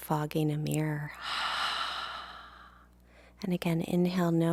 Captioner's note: woman exhales